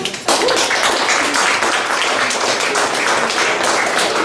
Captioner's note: guests applaud; laughs